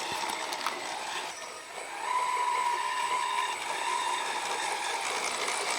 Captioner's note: soft engine roaring